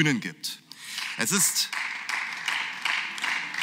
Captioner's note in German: Beifall